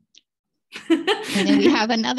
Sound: laughter

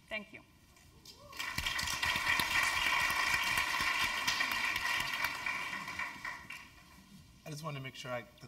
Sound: applause

